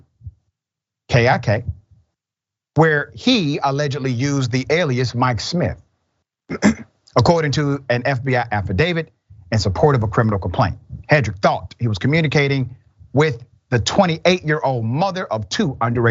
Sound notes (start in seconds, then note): 6.5 cough